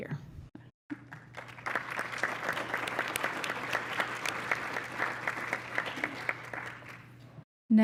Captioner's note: applause